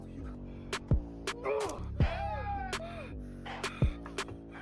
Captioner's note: wet stab